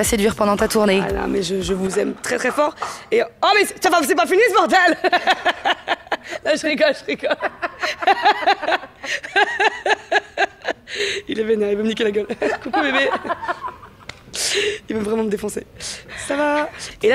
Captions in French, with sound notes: séduire pendant ta tournée ? Haaa là mais je vous aime très très fort et... ( Bruits de travaux ) Ho là mais c'est pas fini ce bordel ! Je rigole, je rigole ! ( rires ) Il est vénère il veut me niquer la gueule... Coucou bébé ! Il veut vraiment me défoncer...Ca vaaaa ?